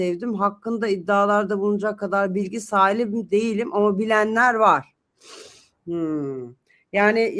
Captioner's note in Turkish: homurdanır